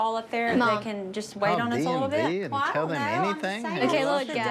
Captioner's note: overlapping chatter